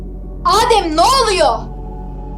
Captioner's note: shouting